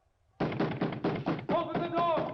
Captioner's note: banging on door